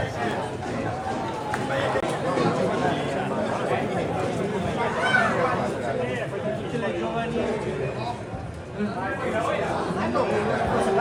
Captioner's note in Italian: Applauso